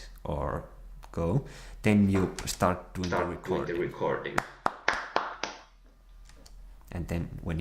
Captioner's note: clap, clap, clap